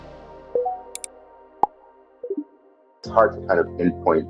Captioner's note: screen clicks